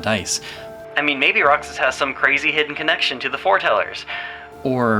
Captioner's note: sarcastically